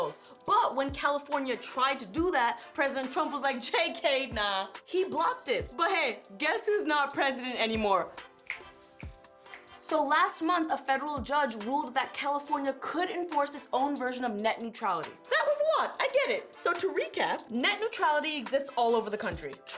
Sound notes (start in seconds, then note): 8.4 snapping